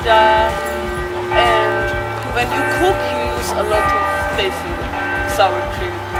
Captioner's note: church bells still Ding-Donging in the background